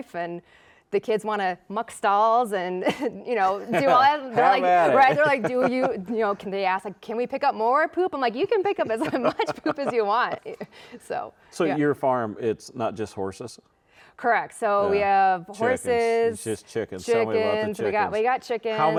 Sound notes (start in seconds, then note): 3.4 laughs; 8.6 laughing